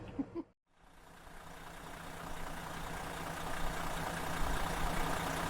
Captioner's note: giggles; coach engine revving